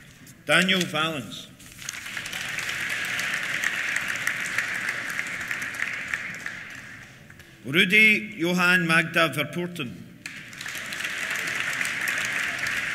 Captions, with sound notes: Daniel Vallance. (APPLAUSE) Rudi Johan Magda Verpoorten. (CHEERS) (APPLAUSE)